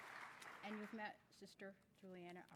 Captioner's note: applause